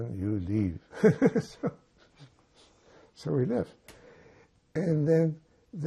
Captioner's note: laughing